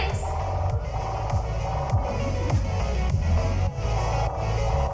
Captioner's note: disorienting warble